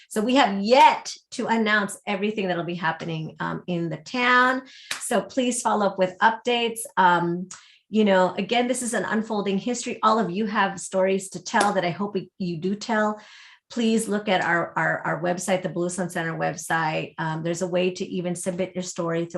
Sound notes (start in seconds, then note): none